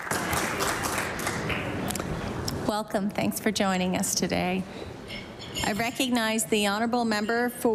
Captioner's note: applause